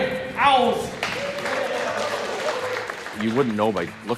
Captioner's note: players applaud